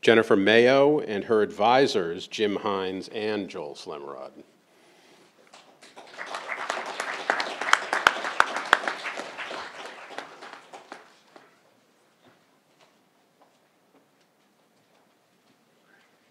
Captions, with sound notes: - Jennifer Mayo and her advisors Jim Hines and Joel Slemrod. (crowd applauding)